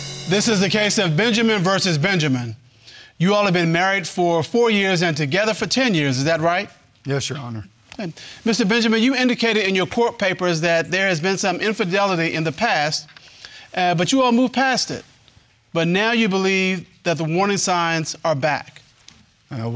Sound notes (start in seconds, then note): none